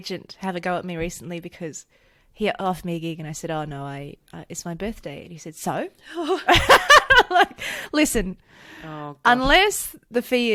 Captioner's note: laughs